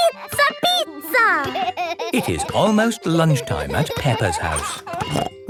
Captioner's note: laughing